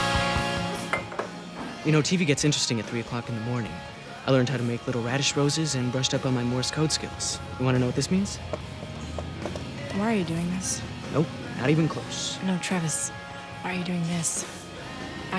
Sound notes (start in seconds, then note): 8.4 tapping sounds